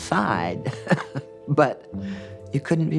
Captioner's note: laughs